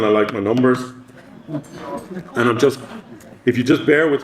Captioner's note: audience laughing